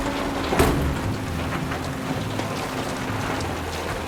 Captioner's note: car door slams